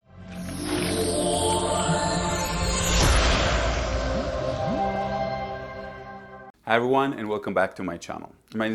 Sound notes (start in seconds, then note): 0.7 bright music; 2.0 water pouring